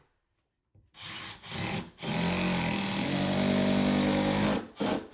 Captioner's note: drill drilling